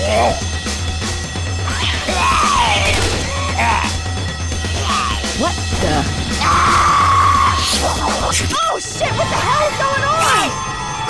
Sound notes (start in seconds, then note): 2.1 unusual coughing zombie sounds